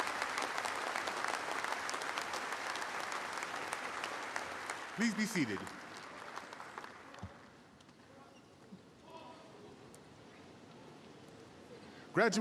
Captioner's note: applause